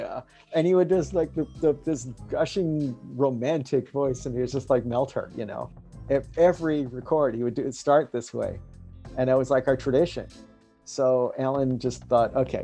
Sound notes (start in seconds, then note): none